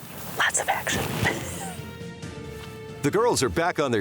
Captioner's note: laughs